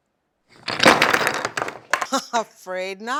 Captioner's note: wood collapsing